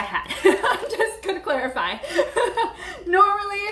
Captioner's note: laughing